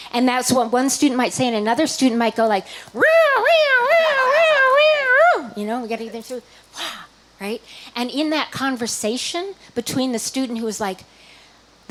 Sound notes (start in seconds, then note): 2.6 making an ambulance siren sound